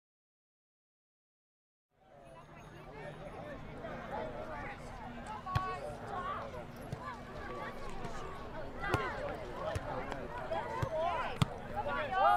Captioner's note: children in a crowd